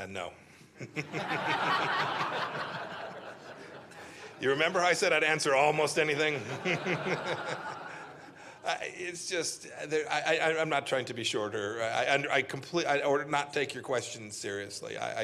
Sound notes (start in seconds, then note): 0.8 laughter